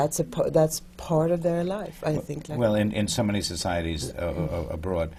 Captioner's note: none